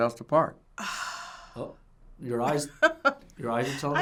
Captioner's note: sighs; laughs